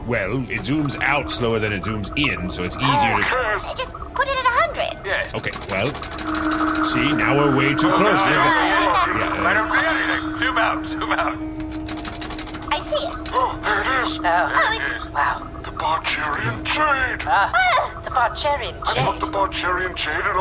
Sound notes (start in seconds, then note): 5.4 audibly mashes zoom button; 11.6 button mashing